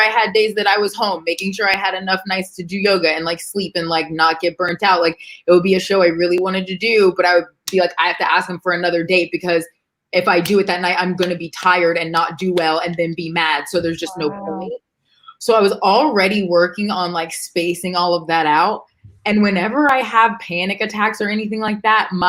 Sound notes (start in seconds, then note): 13.8 murmurs